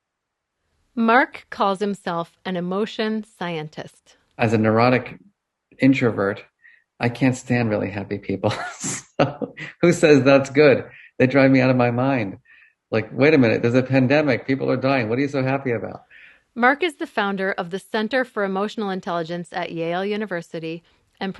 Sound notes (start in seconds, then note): 7.0 laughs